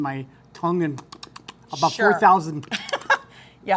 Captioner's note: slurping